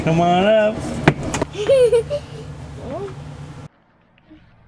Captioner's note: laughing